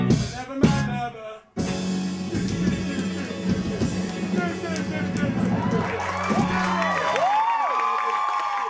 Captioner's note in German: lacht